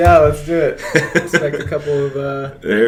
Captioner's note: laughs